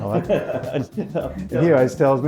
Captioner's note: laughing